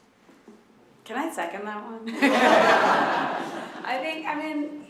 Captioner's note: all laugh